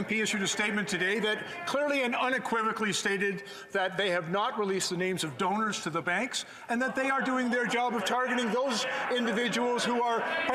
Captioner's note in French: voix de l'interprète